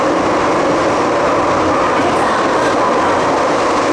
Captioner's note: Cantonese